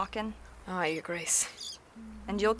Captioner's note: quietly hums to the baby